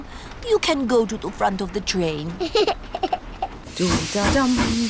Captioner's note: giggles